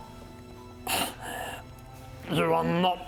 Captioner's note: sad snuffles